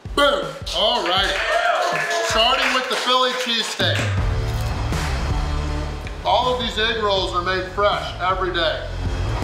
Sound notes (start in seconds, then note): 0.7 crowd cheering and clapping; 9.2 heavy rock music playing